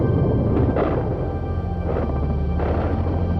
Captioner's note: explosions